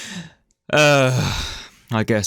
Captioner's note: groan